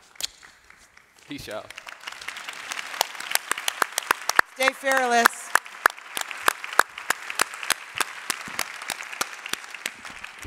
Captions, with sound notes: Peace out. [Applause] -Stay fearless [Applause]